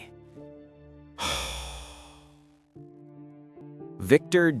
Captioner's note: sigh